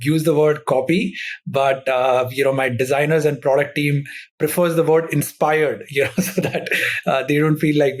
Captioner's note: laughs